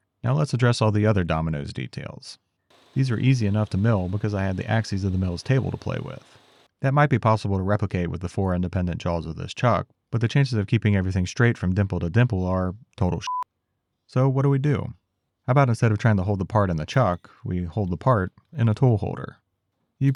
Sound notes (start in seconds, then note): 13.2 beep